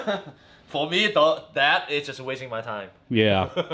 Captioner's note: laughing